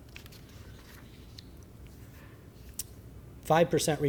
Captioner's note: rifling through papers